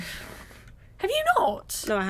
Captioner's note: in disbelief